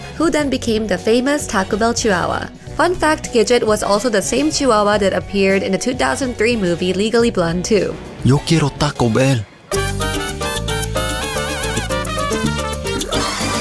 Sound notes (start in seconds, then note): 8.3 speaks in Spanish; 9.9 energetic music